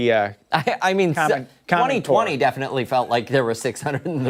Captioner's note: laughter